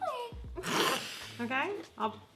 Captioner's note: laughs